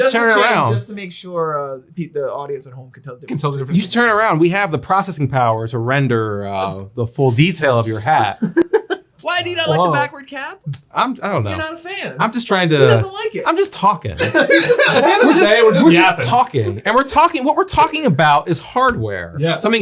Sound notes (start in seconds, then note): 7.6 laughing; 14.2 all laughing